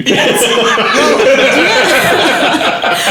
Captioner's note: laughing